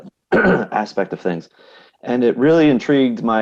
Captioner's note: coughs